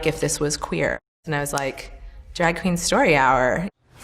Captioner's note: snaps fingers